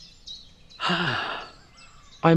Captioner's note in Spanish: Suspiro